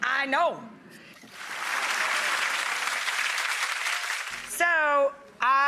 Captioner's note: audience claps